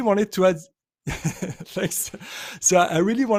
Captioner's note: chuckling